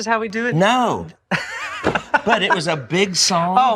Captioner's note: laughs